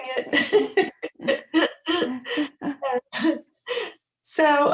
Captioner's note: both laughing